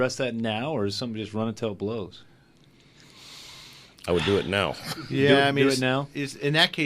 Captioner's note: laughs